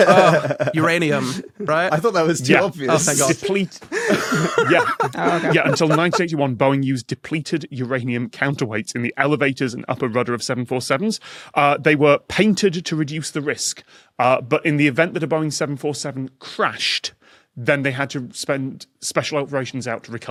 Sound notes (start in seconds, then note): 0.0 laughs; 3.8 laughs heartily